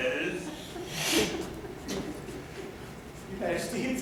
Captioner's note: she hisses